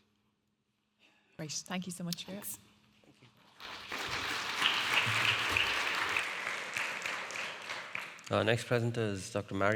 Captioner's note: audience applauding